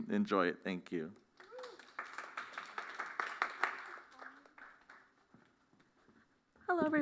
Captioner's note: applause